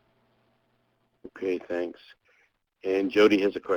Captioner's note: voiceover